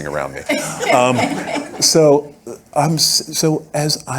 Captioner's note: audience laughing